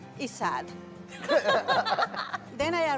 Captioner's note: laughter